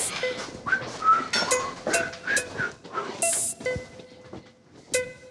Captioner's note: whistles